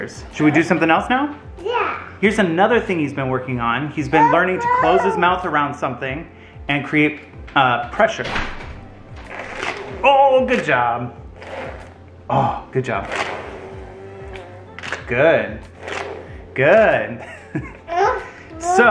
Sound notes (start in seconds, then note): 12.9 blowing; 17.3 laughs